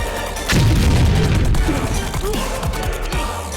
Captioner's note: massive energy explosion